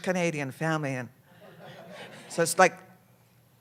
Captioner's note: laughter